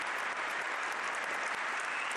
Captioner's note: applause